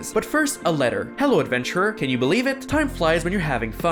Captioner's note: reading letter